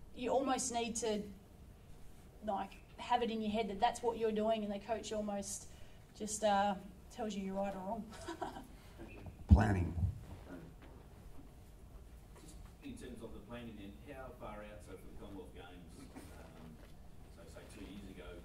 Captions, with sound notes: You almost need to, like, have it in your head that that's what you're doing and the coach almost just tells you you're right or wrong. (LAUGHS) - Thank you. - Planning. - Just in terms of the planning, then, how far out? So for the Commonwealth Games, so say two years ago,